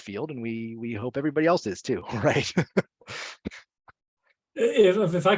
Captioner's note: laughs